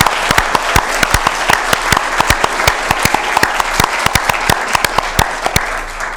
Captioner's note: applause